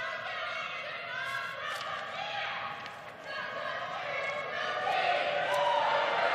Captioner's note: crowd chanting